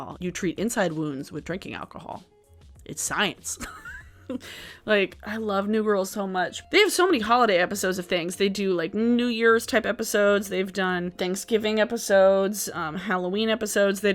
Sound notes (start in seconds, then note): 3.6 laughing